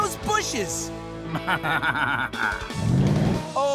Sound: laughing

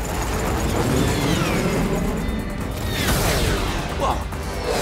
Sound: Alpha Grims whirring

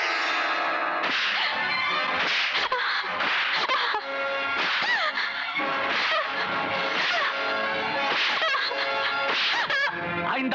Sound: whipping

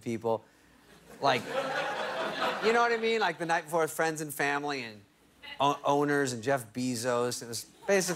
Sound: laughter

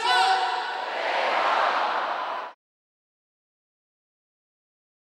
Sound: crowd cheering

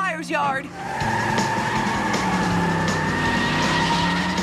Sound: tires Screeching

